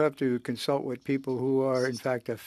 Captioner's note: speaking French